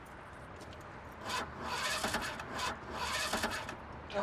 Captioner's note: motor rattles